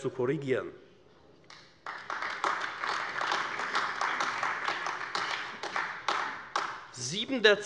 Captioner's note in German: Beifall AfD